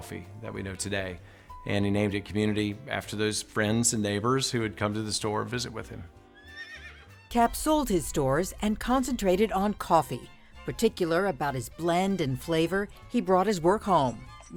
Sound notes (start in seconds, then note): 6.3 horse neighs